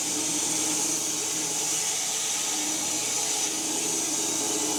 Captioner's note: saw continues whirring